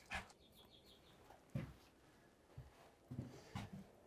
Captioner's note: bird chirping